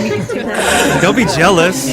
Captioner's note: cough